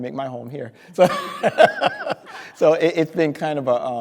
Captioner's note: speaker laughing